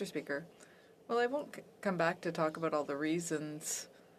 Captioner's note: speaking French